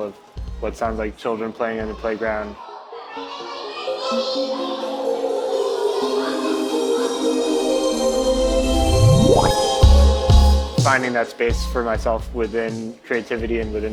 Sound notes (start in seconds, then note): 2.6 children chattering; 2.8 bright ethereal music